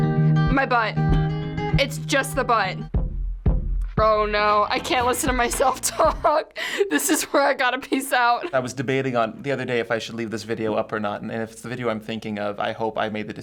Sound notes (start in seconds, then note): 3.1 percussive music; 5.6 laughs